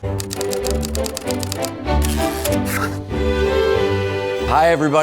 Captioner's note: upbeat music; typewriter clicking